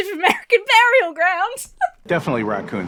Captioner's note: laughs